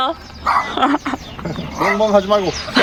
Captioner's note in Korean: 멍멍